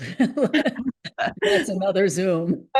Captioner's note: laughter